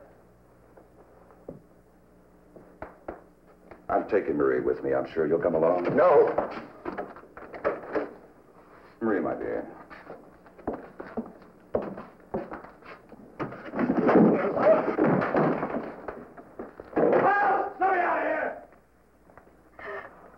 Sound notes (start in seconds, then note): 14.0 scuffle